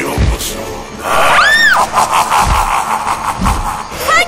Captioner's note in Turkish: Kahkaha sesi